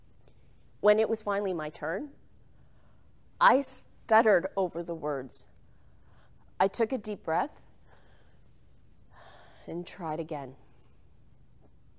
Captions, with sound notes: When it was finally my turn, I stuttered over the words. I took a deep breath. (exhales heavily) And try it again.